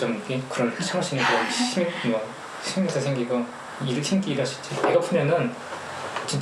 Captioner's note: speaking in foreign language